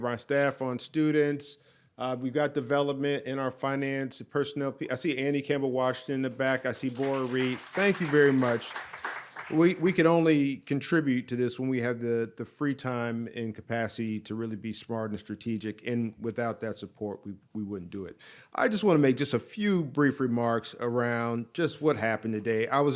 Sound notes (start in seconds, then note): 6.7 audience applauds